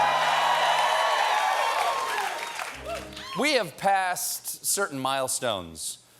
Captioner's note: cheers and applause